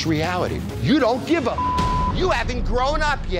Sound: beep

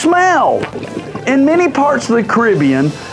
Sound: gurgling

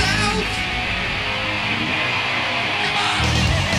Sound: audience cheering

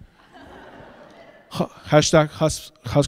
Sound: audience laughs

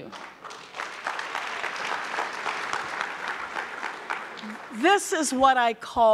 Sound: audience clapping

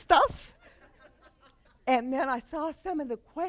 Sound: laughter

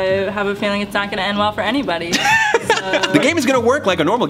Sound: laughs

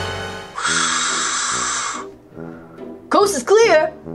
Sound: dramatic music; air hissing

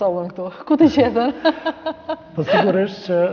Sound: laughing

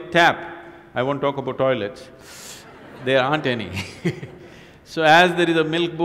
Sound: laughs

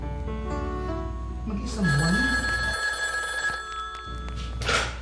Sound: telephone ringing

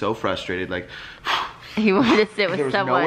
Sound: huffs

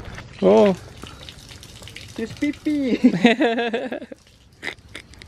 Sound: laughter

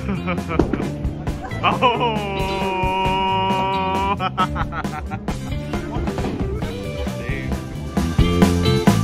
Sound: laughter

